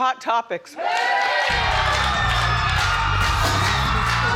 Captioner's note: crowd cheering; upbeat music